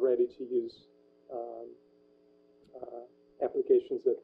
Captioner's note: pause